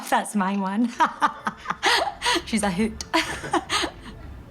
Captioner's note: laughs